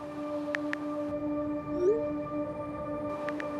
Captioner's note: keypad clicks